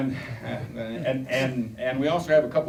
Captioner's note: chuckling